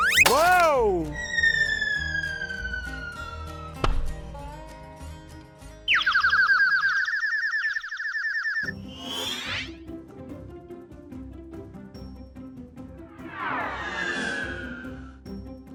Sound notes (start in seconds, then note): 1.2 slide whistle; 3.9 scientist thud; 5.8 birds chirping; 8.9 whoosh; 13.1 whoosh